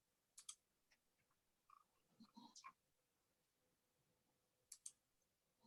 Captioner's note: keyboard keys and mouse clicking